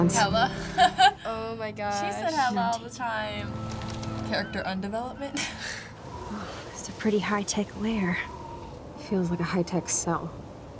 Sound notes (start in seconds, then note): 0.4 laughs; 5.8 chuckles